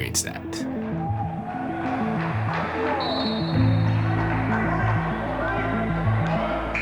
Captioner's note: crowd cheering; whistle blowing